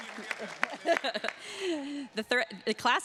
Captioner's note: laughing